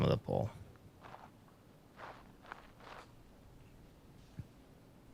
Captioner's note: silence